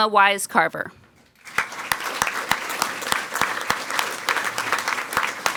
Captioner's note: people clapping